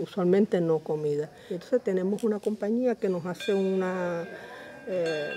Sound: bells

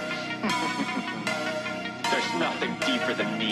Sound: chuckles

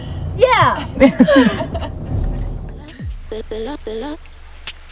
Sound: women laughing

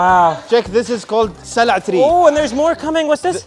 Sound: speaks foreign language

